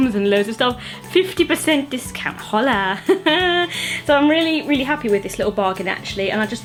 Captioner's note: laughs